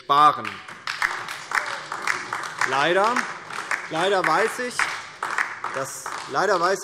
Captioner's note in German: Beifall DIE LINKE